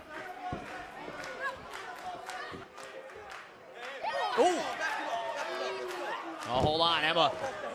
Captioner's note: crowd chatter